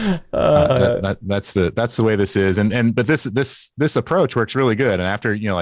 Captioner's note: laughter